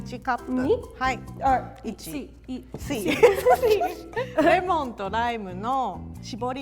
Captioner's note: both speak in foreign language